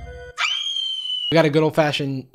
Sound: high pitched scream

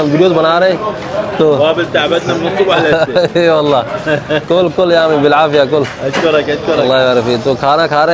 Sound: Arabic

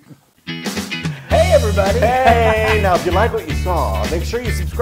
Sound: laugh

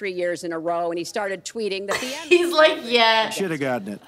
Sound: laughs

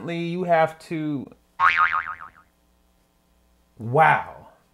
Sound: boing Yoing

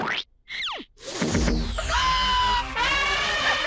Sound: screams

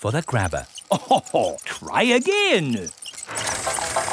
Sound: chuckles

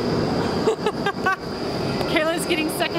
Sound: laughing

